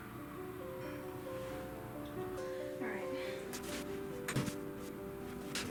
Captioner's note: sighs